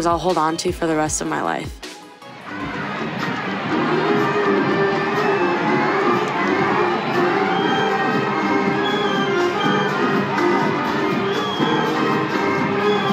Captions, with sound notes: I'll hold on to for the rest of my life. (dramatic sporting music) (crowd cheers)